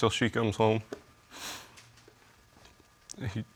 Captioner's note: sniffles